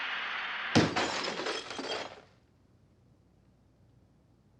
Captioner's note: TV shattering